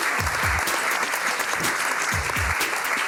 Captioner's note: applause